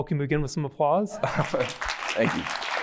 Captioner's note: applause